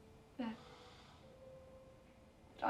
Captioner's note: none